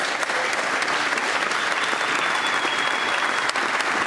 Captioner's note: applause